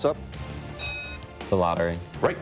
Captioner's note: bell dinging